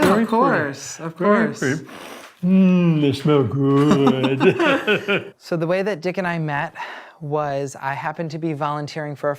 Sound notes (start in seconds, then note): 2.2 inhales